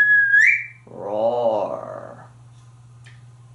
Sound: whistling; roaring

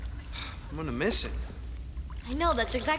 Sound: sighs

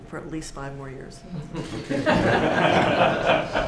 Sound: laughter

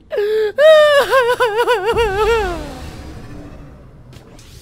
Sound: crying

